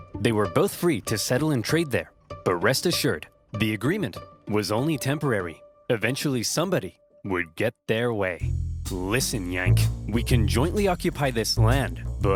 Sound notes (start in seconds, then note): none